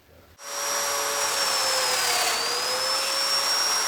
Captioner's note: equipment whirring